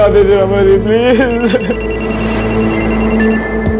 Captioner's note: Phone ringing